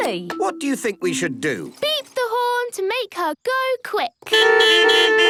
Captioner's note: beeping